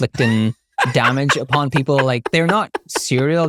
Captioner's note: laughing